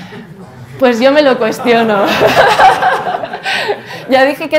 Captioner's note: laughs